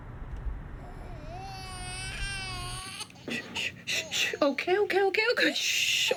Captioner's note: baby crying